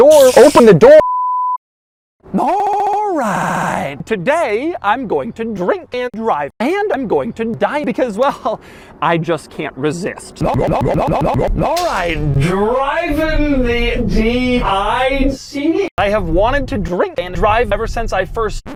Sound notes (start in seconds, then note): 1.1 bars and tone; 10.3 GLUG glug GLUG glug GLUG GLUG GLUG glug; 11.6 slurred speech